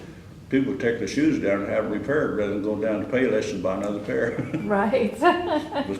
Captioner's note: laughter